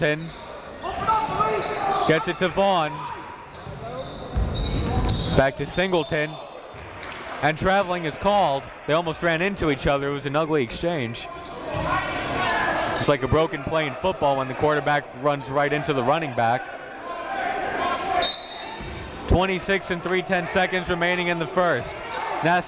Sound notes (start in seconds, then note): 0.0 coaches yelling; 0.0 crowd talking; 18.2 whistle blows